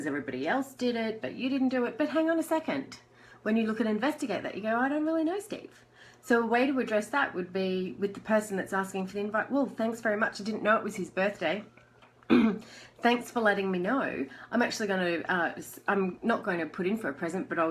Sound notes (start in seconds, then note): 12.3 clears throat